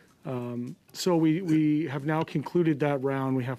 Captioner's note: speaking French